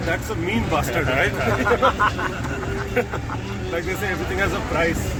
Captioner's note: all laugh